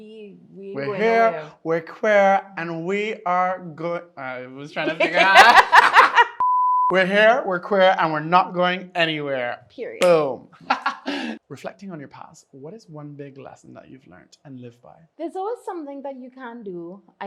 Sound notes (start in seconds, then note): 4.8 laughs; 6.4 beeps